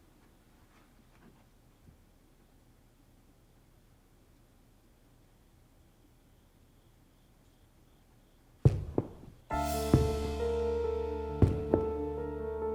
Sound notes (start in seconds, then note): 8.6 thumping; 9.5 suspenseful music